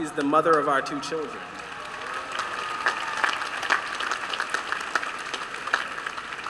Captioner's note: applause